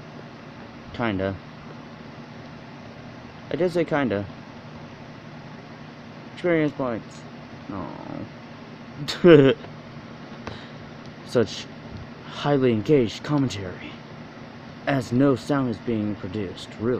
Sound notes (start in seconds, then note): 9.1 terrible excuse for a fake chuckle